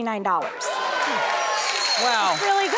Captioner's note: audience cheering